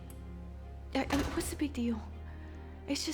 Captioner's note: door shuts